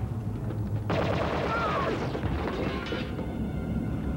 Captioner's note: screaming